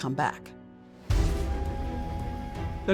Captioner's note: train whistle blows